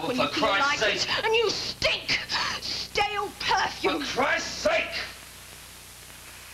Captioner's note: louder